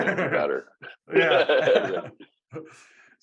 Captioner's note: laughing